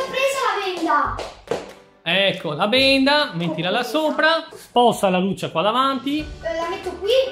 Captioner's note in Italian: Applauso